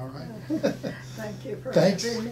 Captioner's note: laughing